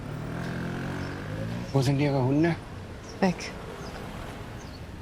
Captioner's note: in German